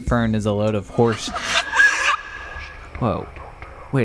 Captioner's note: scream